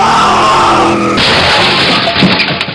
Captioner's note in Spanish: choque del coche